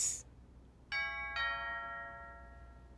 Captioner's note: doorbell ringing